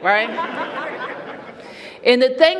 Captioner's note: laughter